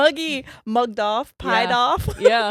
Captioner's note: giggles